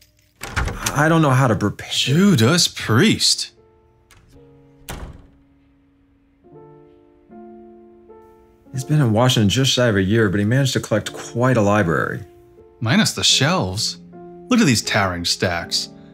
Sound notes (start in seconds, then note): 0.0 unlocking of wooden door; 3.5 door closes. melencholy music